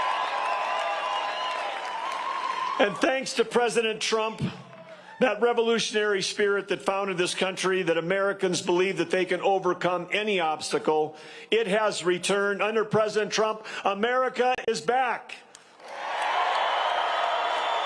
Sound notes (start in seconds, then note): 1.5 cheers and applause